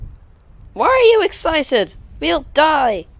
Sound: in an eargratingly crackily voice

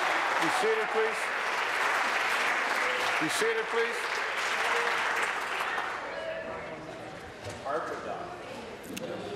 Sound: applause

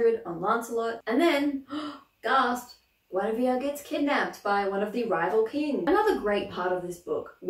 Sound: gasp

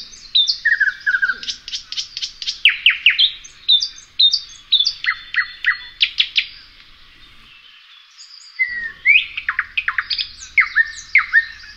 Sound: nightingale singing

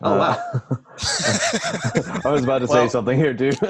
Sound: laughing

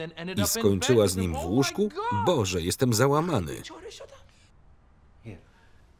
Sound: speaking foreign language

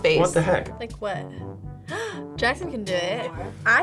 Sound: gasps

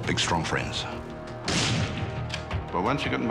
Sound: gun fires

